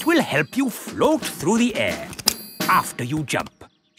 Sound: clicking

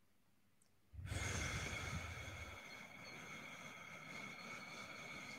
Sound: exhaling

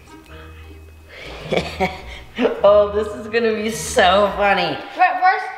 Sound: laughs

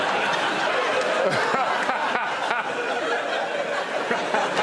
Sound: laughter

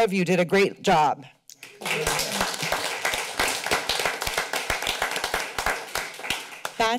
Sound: applause

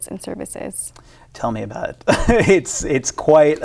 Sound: laughs

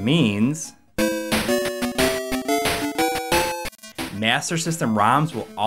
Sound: game audio

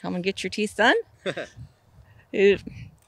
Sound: laughs

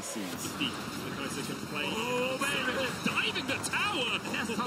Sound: announcers commentating

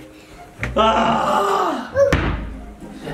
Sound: groans

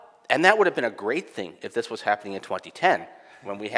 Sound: none

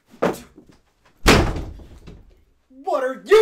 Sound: door slams

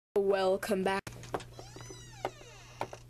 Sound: door squeaks

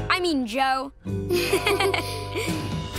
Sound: laughing

